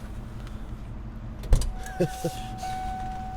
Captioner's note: rear door opens